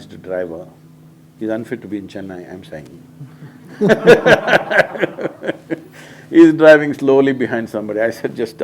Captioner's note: laughter